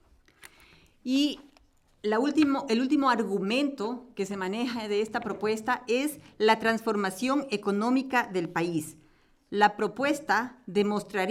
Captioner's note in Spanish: Español